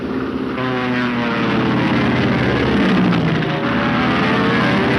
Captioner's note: engine whining